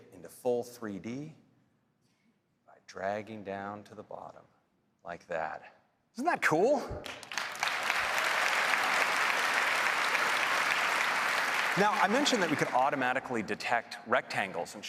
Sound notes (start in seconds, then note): 7.0 applause